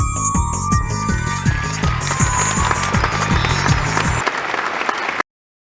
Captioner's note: unnecessary applauding